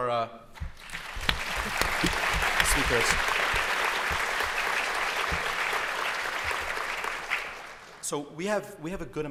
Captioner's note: applause